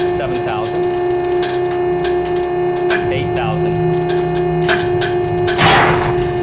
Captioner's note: sling crackling; sling pops